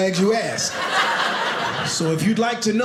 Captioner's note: audience laughing